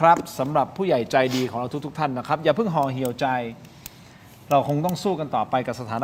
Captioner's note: takes a deep breath